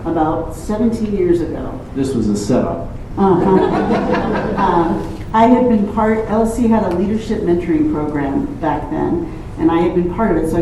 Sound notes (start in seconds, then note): 3.3 laughter